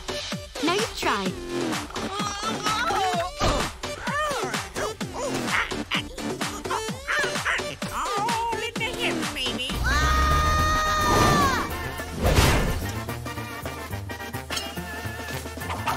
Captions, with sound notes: Now you try. [groaning] [grunting] It's all in the hips, baby. [screaming]